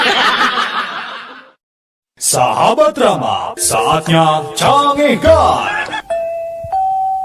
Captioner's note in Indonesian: tertawa